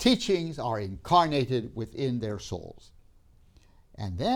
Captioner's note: none